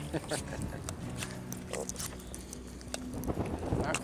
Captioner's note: laughs